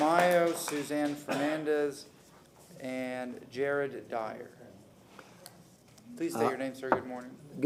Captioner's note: applause